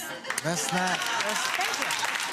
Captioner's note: gallery claps